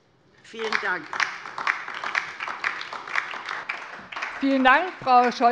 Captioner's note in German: Beifall DIE LINKE